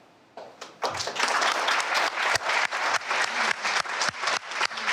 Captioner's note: audience clapping